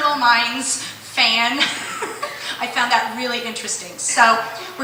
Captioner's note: laughter